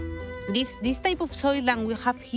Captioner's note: with Spanish accent